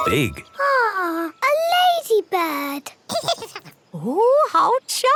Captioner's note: giggles